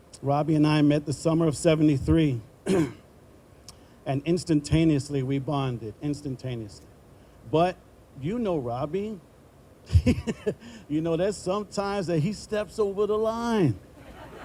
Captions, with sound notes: Robbie and I met the summer of '73. And instantaneously, we bonded; instantaneously. But you know Robbie. (laughing) That sometimes he steps over the line.